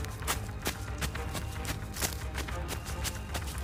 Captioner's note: footsteps